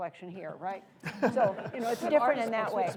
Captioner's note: laughter